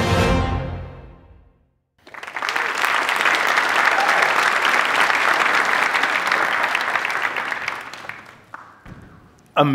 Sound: applause

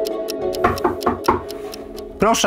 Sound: knocking on the door

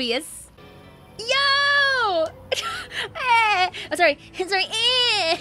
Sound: laughing

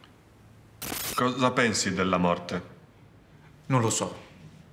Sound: electronic distortion

